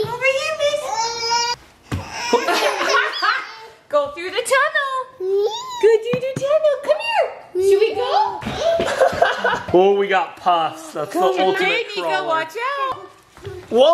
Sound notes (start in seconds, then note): 2.3 laughter; 8.6 laughter